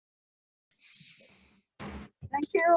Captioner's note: gavel banging